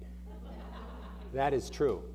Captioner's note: audience laughing